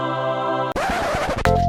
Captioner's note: angels singing; record scratch